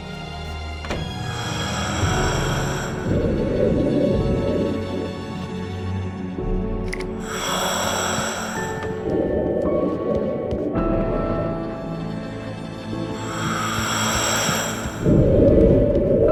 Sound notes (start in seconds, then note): 10.0 more noise when opening the door